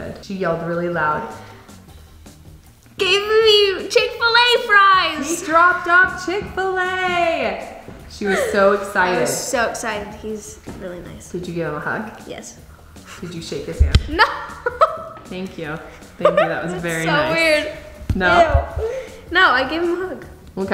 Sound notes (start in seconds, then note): 16.0 laughs